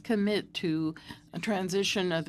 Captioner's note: speaking French